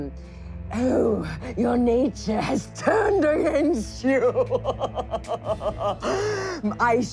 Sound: laughing evilly

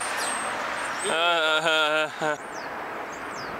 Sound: forced laughter

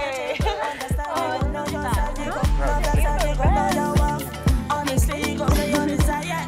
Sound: laughing, chatting

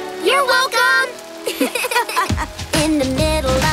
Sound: laughing

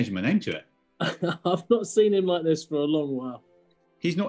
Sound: laughing

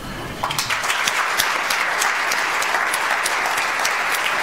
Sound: audience applauds

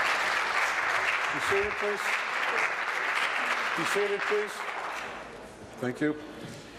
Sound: applause

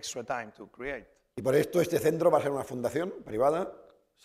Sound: speaking spanish

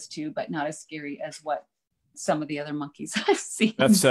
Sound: laughs

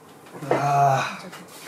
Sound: sigh

